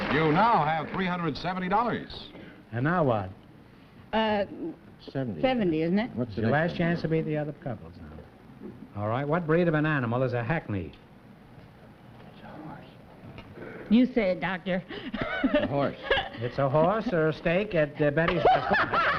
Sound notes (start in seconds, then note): 12.5 whispering; 15.0 laughs; 18.3 laughter